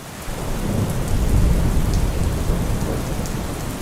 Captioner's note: heavy rain and thunder